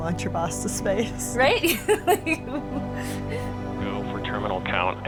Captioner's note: laughs